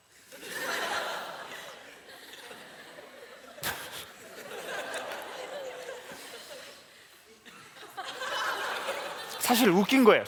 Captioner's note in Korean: 웃음